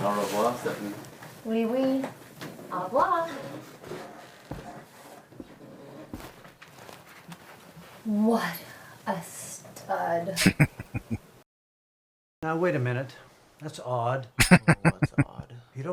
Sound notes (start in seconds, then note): 10.4 chuckling; 14.4 laughing